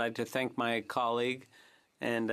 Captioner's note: speaking French